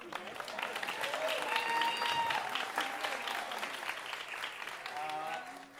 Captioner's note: audience cheering and applauding